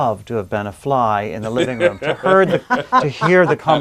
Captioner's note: laughing